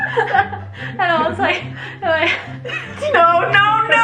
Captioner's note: laughs